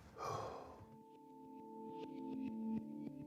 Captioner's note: door thuds; Mark sighs; suspenseful music